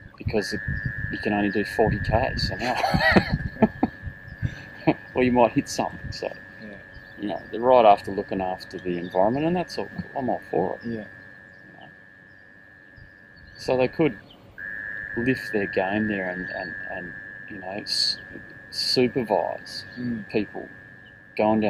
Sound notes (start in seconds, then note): 2.6 laughing